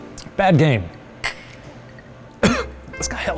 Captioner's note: glasses clinking; coughing